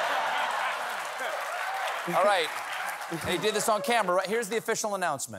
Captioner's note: laughter